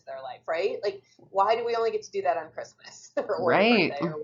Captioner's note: laughs